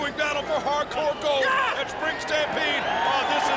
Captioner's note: shouts